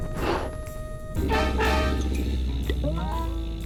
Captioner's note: blows softly; growls